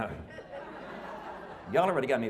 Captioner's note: laughing